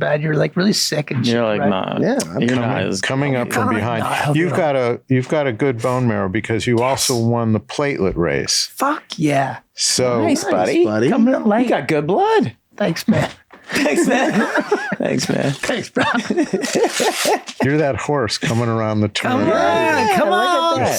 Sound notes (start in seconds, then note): 13.6 laughing